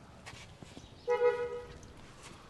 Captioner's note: car horn honking